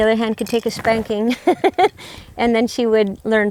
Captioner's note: chuckles